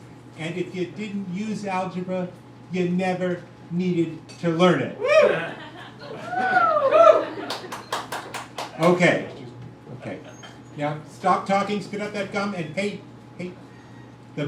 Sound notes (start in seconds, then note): 4.9 crowd whoops